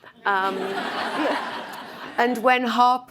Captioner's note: audience laughs